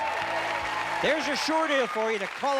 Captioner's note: applause